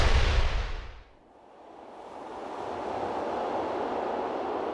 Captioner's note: wind whooshing; explosion booms